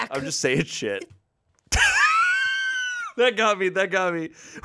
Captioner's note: laughs